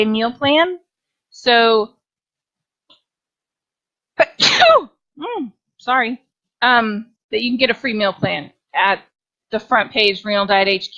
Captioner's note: sneeze